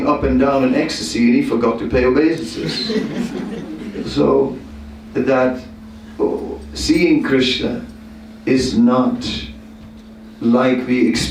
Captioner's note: laughter